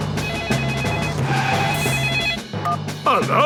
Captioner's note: beeping; phone ringing